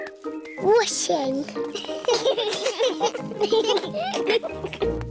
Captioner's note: children giggling